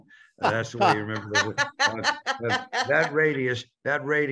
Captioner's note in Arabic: يضحكان